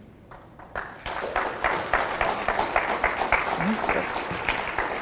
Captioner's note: audience applauds